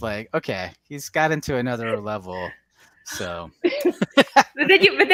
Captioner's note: laughs